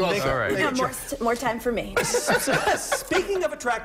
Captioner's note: laughter